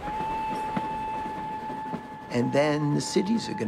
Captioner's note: train whistle blows